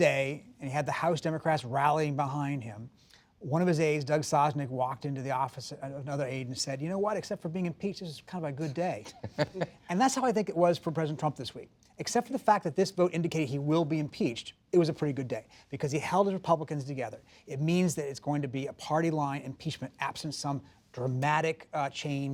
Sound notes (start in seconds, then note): 8.6 laughter